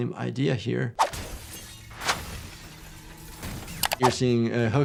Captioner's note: glass shatters